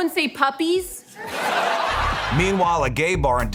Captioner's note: laughter